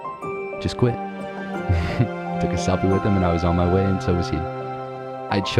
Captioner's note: chuckles